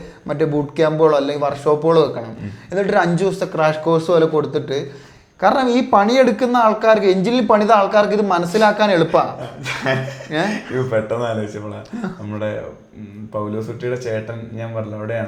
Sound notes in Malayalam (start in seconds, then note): 3.5 തൊണ്ട ശരിയാക്കുന്നു